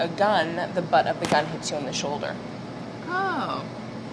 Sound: gun shots

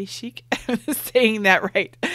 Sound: laughs

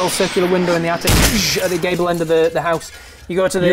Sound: bang!

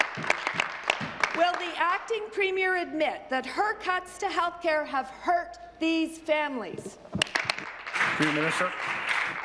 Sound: applause

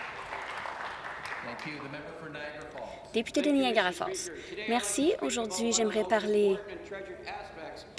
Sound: some Applause

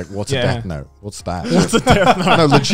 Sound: both chuckling

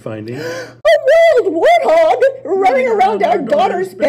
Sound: gasp

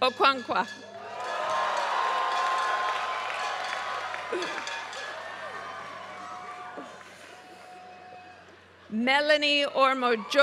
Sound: applause

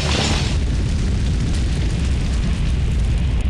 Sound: roaring flames

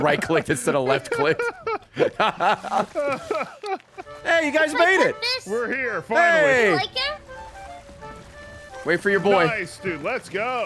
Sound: laughs

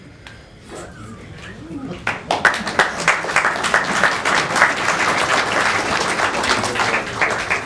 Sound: applause

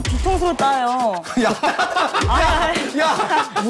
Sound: laugh out loud

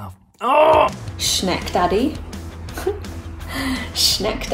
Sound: groaning; laughs

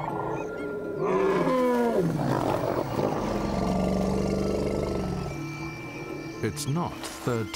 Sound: lions growl; elephant grunts

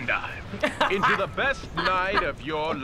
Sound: chuckling

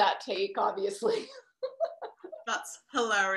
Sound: laughter

